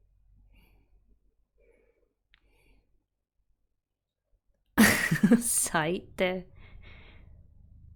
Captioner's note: laughs